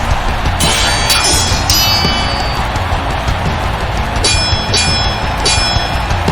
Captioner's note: ominous music; swords clanging